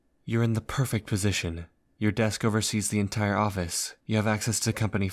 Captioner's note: none